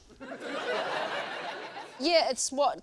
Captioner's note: laughter